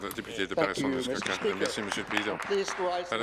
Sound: applause

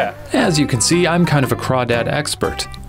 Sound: voiceover

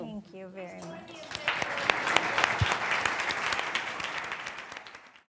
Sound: audience applauding

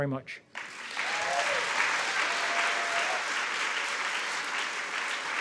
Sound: audience applauds

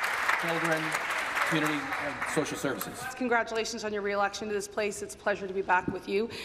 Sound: applause

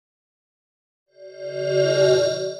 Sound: swoosh

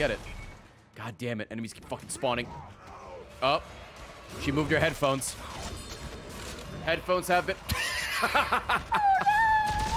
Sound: laughs

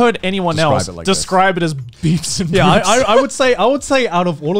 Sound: laughs

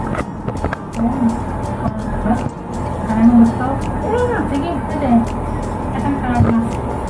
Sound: indistinct chatting

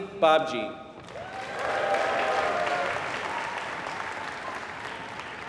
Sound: applause

